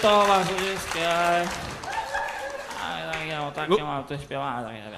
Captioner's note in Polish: Aplauz